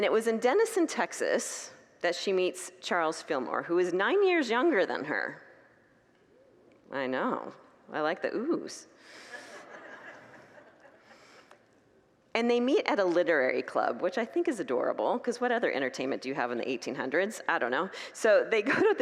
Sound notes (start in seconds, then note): 9.3 congregants laugh